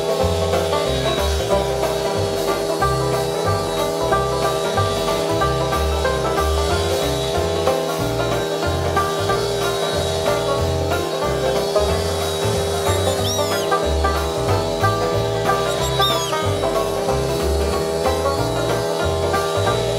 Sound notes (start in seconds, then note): 12.9 squeaking